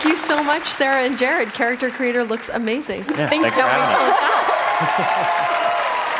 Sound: applause

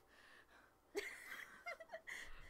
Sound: laughs

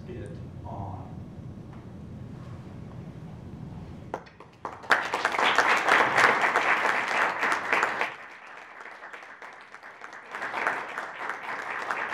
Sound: applause

